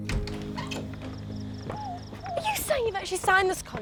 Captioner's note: crickets chirping